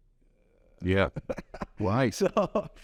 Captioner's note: laughs